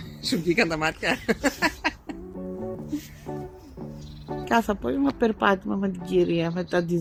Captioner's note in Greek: γέλια